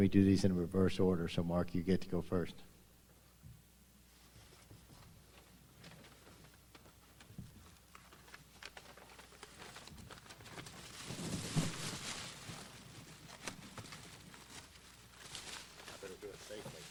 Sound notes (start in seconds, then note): 4.5 silence; 4.5 wrap unraveling